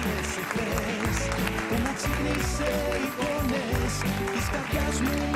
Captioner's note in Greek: χειροκρότημα